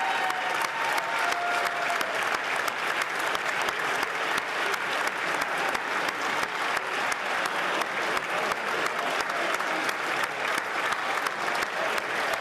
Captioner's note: speaking French